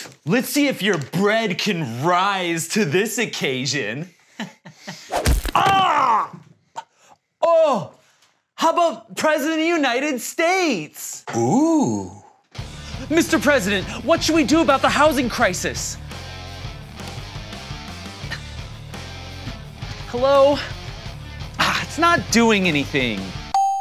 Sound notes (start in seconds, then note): 4.3 laughs; 5.2 baguette thuds; 5.5 screams; 13.4 intense music; 23.5 check mark dings